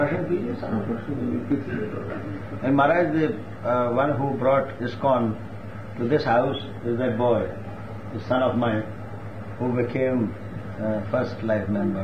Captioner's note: laughs